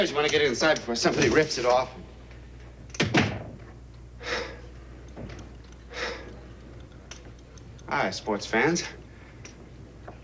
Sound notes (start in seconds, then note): 3.0 door clunks shut; 5.8 gasping